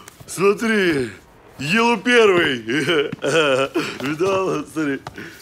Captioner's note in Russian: гогочет